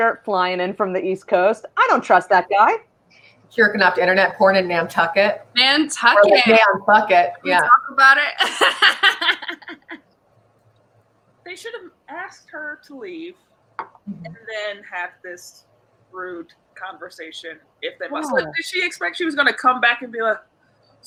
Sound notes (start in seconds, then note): 8.4 laughs